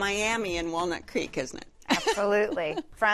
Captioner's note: laughs